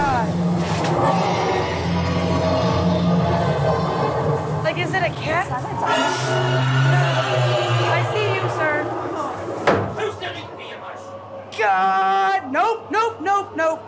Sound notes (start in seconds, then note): 5.9 screeching; 9.5 pounding